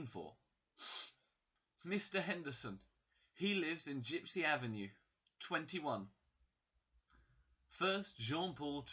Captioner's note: sniff